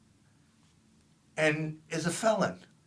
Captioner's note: none